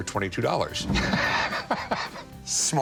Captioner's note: laughs